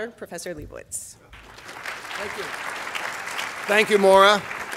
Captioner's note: audience applauding